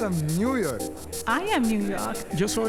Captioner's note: speaking foreign language